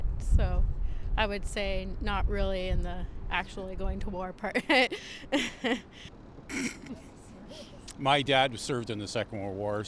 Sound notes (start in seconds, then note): 6.5 scoffs; 6.5 laughs